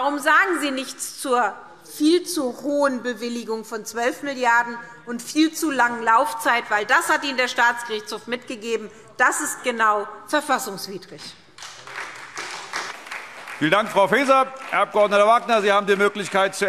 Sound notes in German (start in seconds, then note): 11.5 Beifall SPD